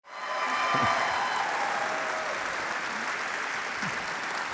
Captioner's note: audience applauding